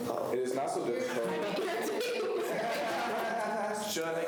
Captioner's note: students laugh